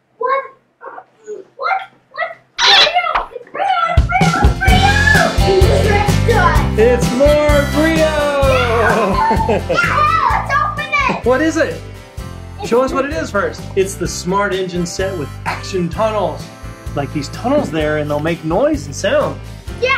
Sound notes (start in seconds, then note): 5.0 upbeat music; 8.6 laughs